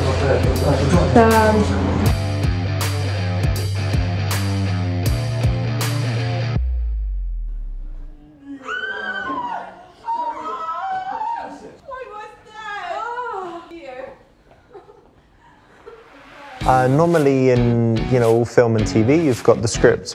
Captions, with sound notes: (screaming) - What was that? - No! - Normally in all film and TV, you've got the script,